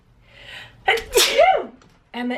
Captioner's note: sneezes